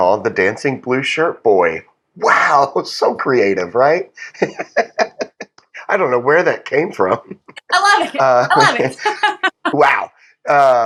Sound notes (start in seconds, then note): 2.2 laugh